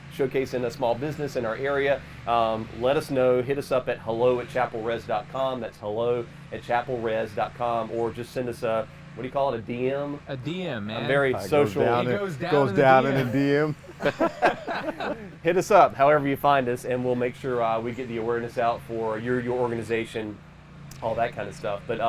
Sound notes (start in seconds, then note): 12.9 everyone laughs